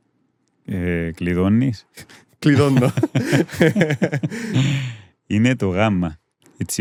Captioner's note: laughter